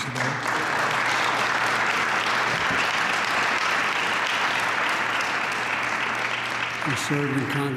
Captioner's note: applause